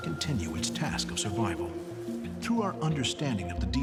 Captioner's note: bees buzzing